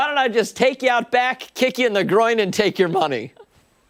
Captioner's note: laughter